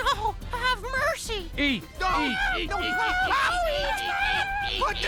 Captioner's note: shrimp screams